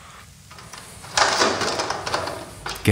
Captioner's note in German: Scheppern